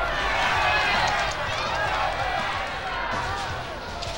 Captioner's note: crowd shouting